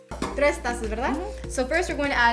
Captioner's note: speaking Spanish